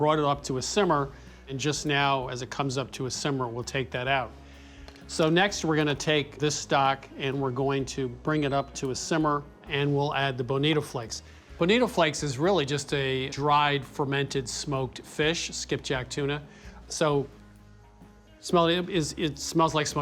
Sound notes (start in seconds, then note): 17.5 sniffs